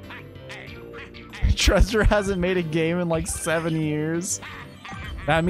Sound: laugh

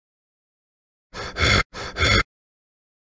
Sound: sound of zombie

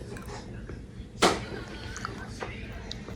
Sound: nom nom

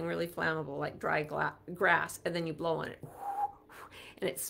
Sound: whistles

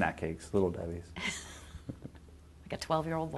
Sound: laughing

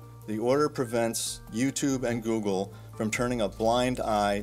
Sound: none

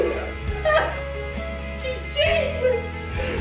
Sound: crying

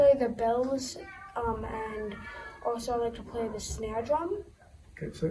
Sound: background kid noises

